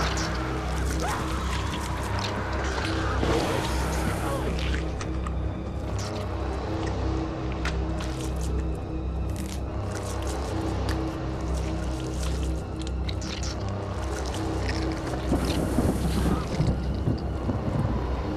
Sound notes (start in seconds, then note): 3.6 squelching continues; 3.6 thunder rumbling; 12.8 squelching continues